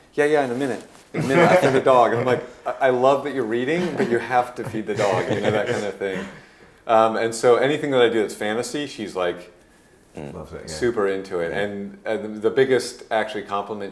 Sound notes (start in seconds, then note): 6.4 laughing